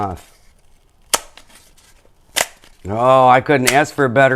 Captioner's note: cardboard clicks